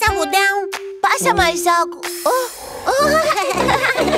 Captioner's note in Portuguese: Risos